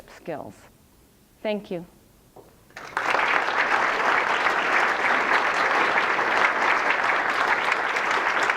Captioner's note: applause